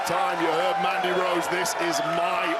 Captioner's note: crowd cheers